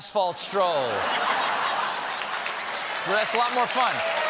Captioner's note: laughter; applause